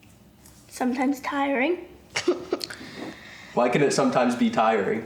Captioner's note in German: lacht